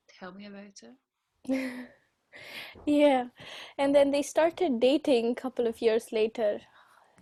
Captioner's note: laughs